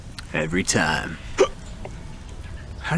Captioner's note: hiccup